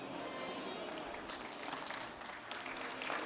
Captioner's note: applause